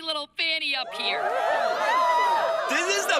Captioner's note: crowd cheering